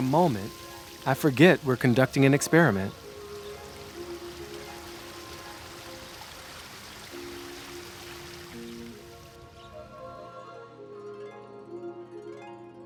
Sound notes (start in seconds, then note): 4.5 light music continues; 4.5 water burbling; 9.4 birds chirping